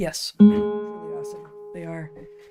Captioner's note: bell Ringing